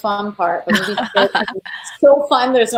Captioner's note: laughing